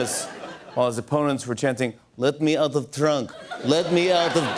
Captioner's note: normal voice; Russian accent